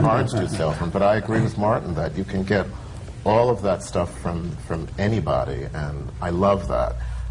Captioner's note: laughter